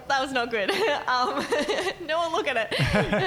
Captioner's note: laughing